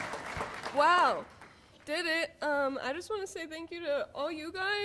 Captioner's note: applause